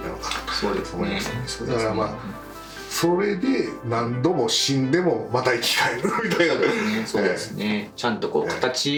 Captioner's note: laughs